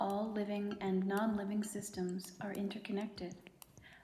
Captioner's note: none